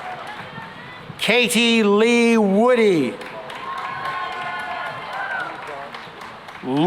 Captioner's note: cheering and applause